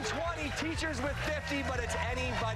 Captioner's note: cheers and applause